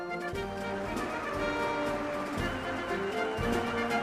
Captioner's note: applause